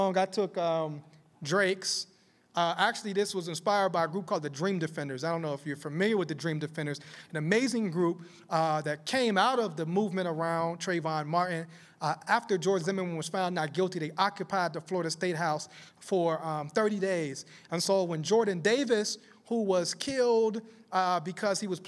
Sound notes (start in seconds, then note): none